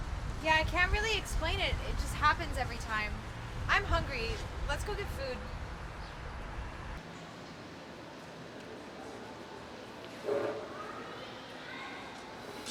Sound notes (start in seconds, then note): 8.9 crowd chattering